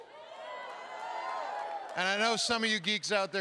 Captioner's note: applause